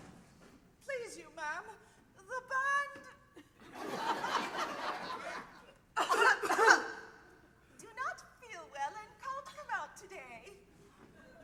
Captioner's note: coughing